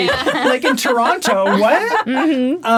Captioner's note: all laughing